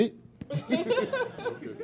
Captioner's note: laughter